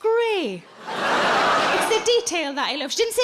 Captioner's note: audience laughing